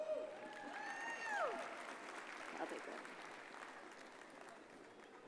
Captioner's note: audience cheers and applauds